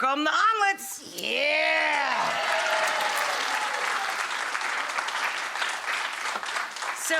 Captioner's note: audience applause